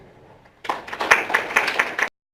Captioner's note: applause